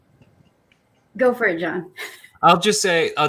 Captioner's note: laughs